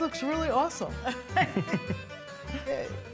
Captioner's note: laughs